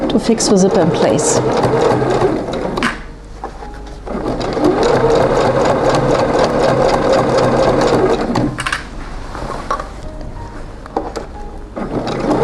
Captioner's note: sewing maschine rattling